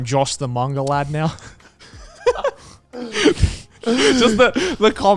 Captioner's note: laughing